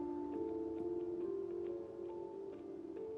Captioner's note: none